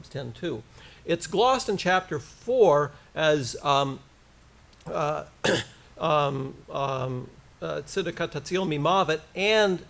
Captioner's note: foreign language